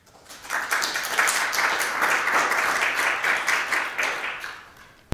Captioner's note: audience applauding